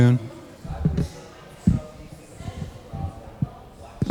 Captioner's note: crowd chattering